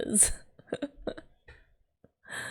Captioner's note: laughs